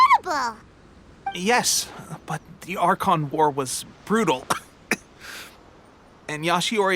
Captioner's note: cough